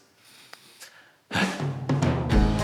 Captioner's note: sigh